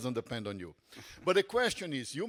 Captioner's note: panelist chuckles